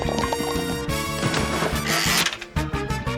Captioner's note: splash!; wheel clicks